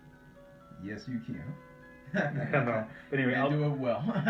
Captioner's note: chuckles